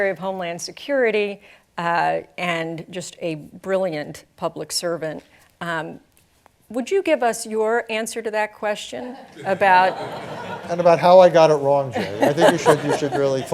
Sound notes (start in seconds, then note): 11.8 laughter